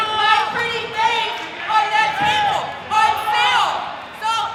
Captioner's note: crowd cheering